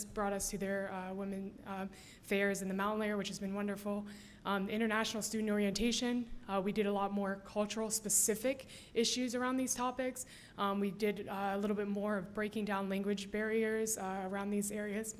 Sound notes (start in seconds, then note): none